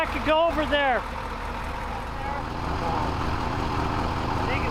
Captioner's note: truck rumbling